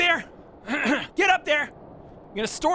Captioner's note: cough